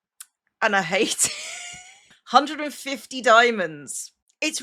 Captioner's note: laughs